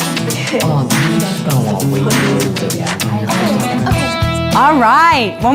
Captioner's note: indistinct chatter